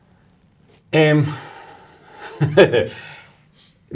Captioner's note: guy chuckles